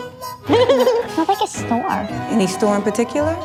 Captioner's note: laughter